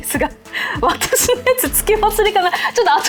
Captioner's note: laughs